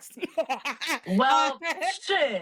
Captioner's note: laughing